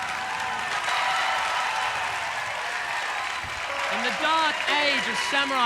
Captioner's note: audience applauding